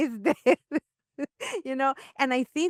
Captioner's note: laughs